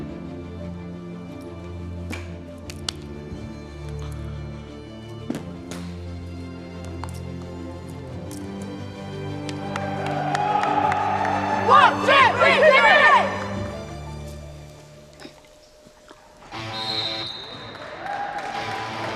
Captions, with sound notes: Of course, with no funding support, we struggled. We hoped we could win... that we could do it. So, we were really determined. 1... 2... 3... GB! This was our last chance to win a medal. (whistle)